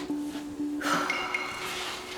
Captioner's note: sighs